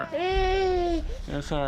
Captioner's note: baby moaning